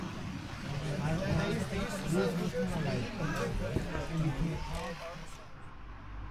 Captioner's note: party chatter